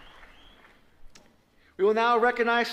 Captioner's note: applause